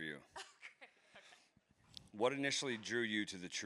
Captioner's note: laughs